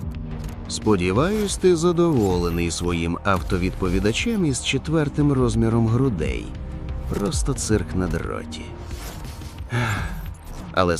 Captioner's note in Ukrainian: знудженно зітхає